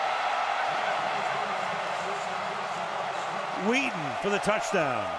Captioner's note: cheering